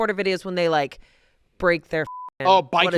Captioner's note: beep